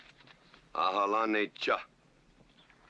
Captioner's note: speaking Comanche